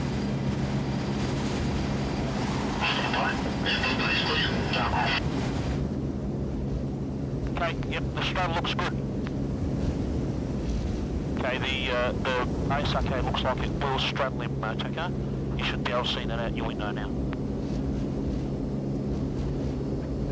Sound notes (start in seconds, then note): 0.2 wind howling; 2.9 distorted radio communication